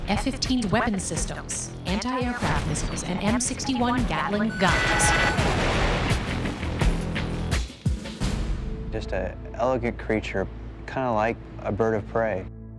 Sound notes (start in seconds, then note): 4.2 shots firing; 5.9 intense music